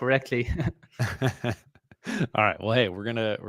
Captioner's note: laughs